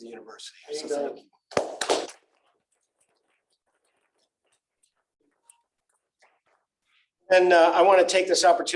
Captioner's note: applause